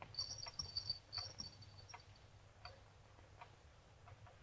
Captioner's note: bells jingling